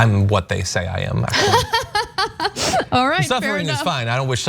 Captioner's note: laugh